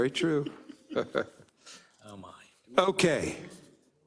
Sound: laugh

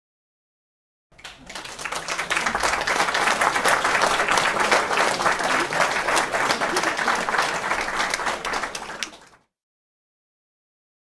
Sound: sound of applause

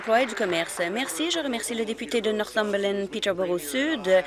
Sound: applause

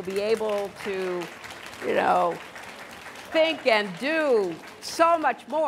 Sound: applause

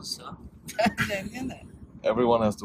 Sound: laughs

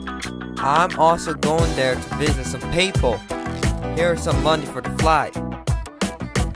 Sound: texan accent

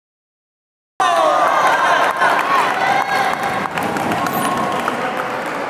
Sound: applause

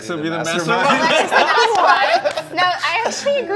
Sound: laughing

